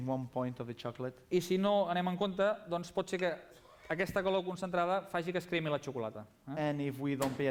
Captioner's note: non-english speech